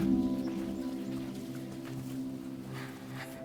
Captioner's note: birds chirping